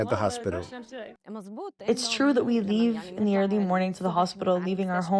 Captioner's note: through translator